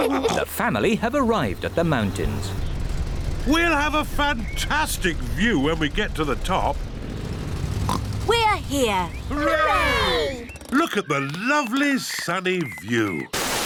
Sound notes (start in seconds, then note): 7.8 oinks